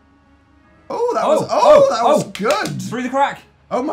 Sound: oh-ing at the same time

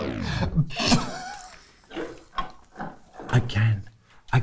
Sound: laughter

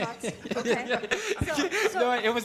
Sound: laughter

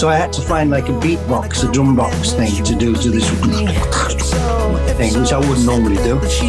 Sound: mimics beat

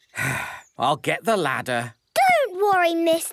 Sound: sigh

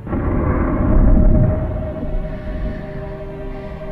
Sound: roaring

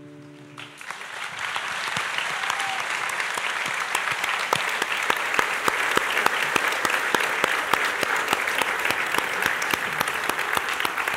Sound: applause

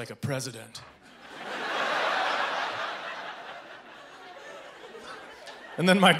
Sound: audience laughing

